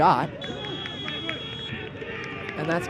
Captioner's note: whistle blows